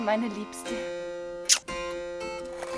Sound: smooch

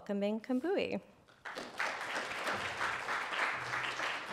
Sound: applause

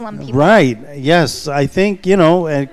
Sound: chuckles

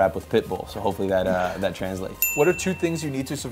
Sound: bell chimes

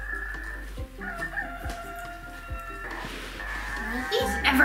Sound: animal noises

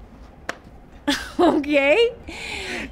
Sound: giggles

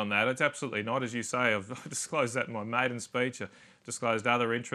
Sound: chuckles

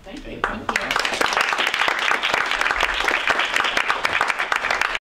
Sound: audience Clapping

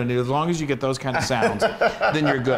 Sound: laugh

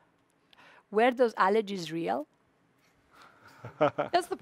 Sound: chuckles

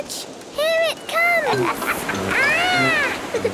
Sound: laughs

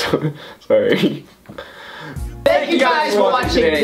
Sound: sad laugh

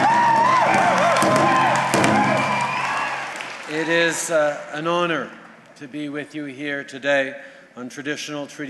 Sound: cheers and drumbeats

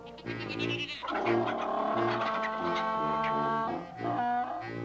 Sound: braying; clucking; bleating

